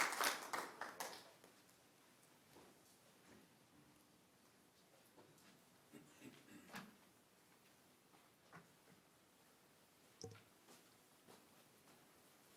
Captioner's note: applause